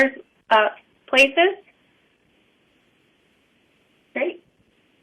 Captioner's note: pause